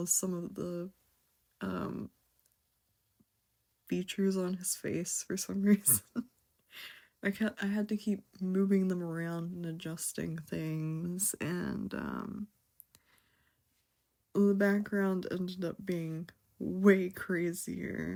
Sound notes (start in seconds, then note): 5.8 laughs